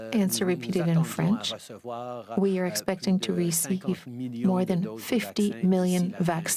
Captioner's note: speaking french